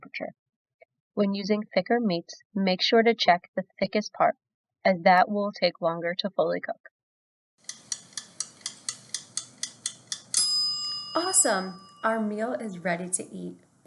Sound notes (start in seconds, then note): 7.6 timer ticking; 7.6 timer dings